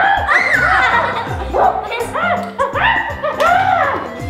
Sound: laughing

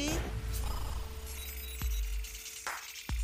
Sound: beeping

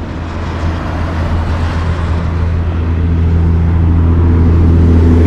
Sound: truck engine accelerating

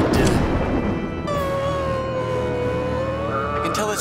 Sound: thundering; creaking

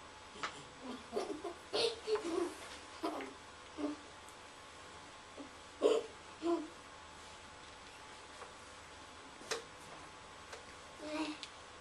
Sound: laughs

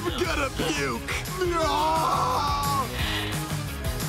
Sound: screaming

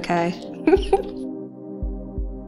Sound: laughing

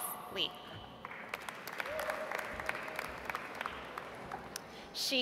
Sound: audience applauds

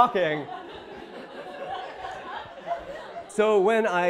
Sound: audience laughing

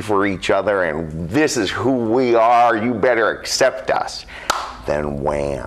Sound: claps

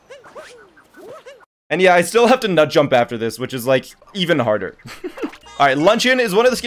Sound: laughs

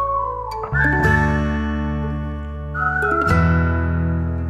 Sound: kind of like nice whistling too

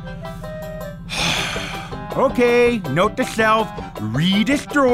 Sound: heavy sigh

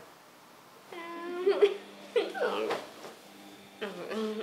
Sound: giggles

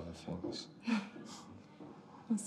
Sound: chuckles

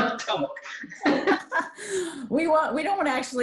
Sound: women laughing

